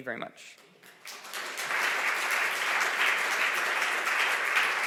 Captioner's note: audience applause